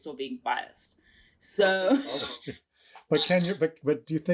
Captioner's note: chuckles